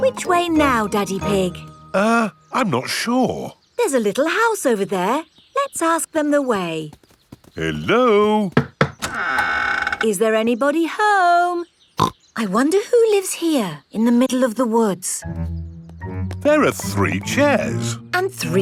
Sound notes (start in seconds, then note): 8.5 door creaks; 12.3 snorts